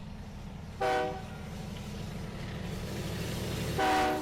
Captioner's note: train engine running; train whistling